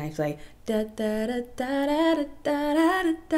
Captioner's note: humming